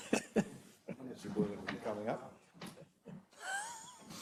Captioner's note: laugh